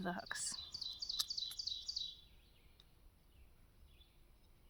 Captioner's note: birds chirping